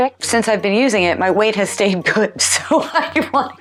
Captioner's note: laughs